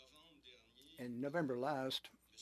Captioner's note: speaking French